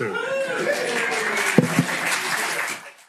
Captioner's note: cheering, applause